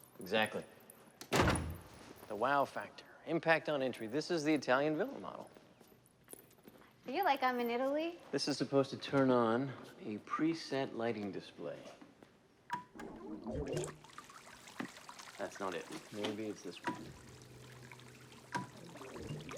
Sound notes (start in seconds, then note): 12.0 beeps; 13.0 water gurgling; 17.3 beeping